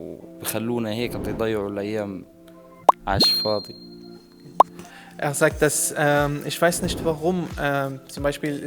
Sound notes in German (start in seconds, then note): 1.1 spricht arabisch …